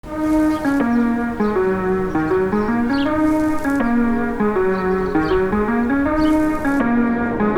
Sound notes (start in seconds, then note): 0.0 birds chirping; 0.1 upbeat electronic music